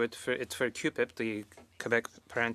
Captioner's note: speaking French